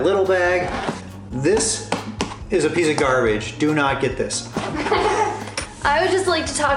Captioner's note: laughter